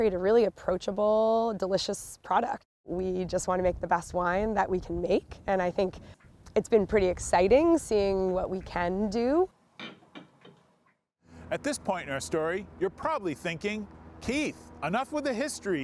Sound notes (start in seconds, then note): 9.8 wine bottle clinking